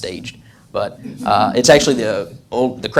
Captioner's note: audience laughs